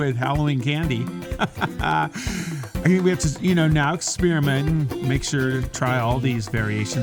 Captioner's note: laughs